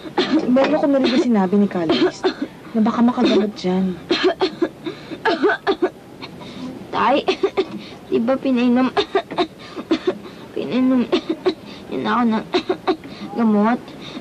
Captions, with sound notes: -I heard Brother Luis mention -something that may cure it. [Coughing intensifies] [Struggles to talk] MANUEL: Father, didn't you... -already give... give... -given me [coughs] medicine?